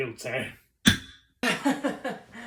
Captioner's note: gavel